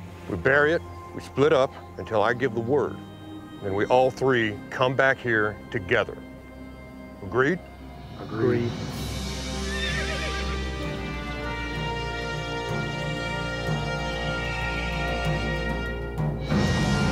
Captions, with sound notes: - We bury it, we split up until I give the word and we all three come back here together, agreed? - Agreed. - Agreed. (horse neighs) (orchestral music)